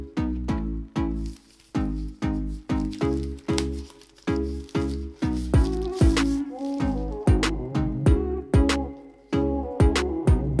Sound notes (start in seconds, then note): 1.1 paper crackles; 7.8 upbeat music